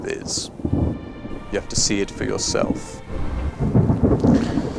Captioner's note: thunder rumbles